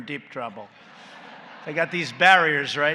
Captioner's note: laughter